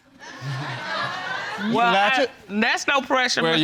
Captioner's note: audience laughing